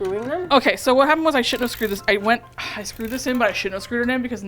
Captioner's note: sighs